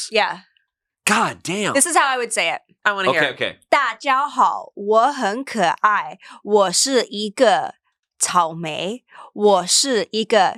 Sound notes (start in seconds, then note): 3.9 speaks foreign language